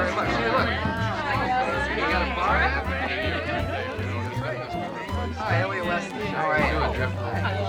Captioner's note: chattering